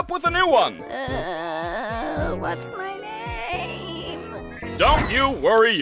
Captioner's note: groaning